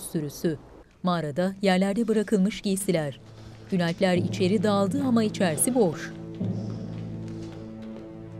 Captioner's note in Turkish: Rüzgâr sesi; Ateş çıtırtı sesi; Ayak sesleri